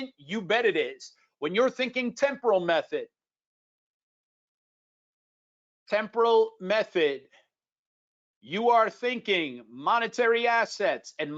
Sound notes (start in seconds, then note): none